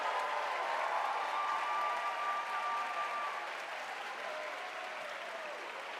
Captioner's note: audience cheering and applauding